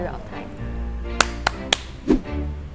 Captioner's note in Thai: ปรบมือ